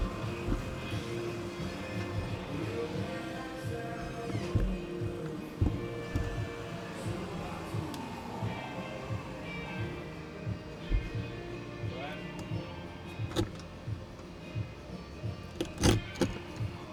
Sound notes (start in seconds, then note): 6.1 upbeat music; 10.0 drill whirring